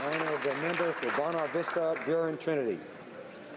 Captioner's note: applause